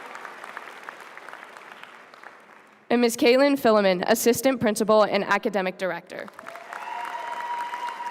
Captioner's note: applause